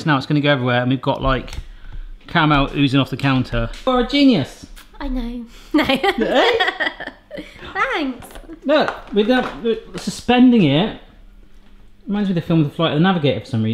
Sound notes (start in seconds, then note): 5.6 laughing